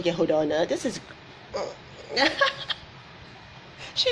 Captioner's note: grunts; laughs